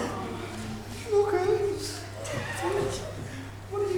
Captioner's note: audience awws/gasps